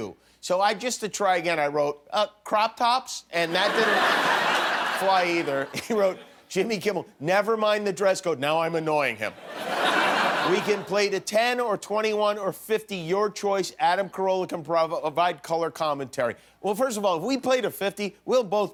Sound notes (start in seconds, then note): 6.6 laughter